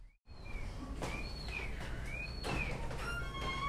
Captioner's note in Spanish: Silbidos